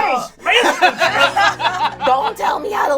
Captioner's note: all laugh